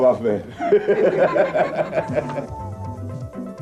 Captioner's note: laughters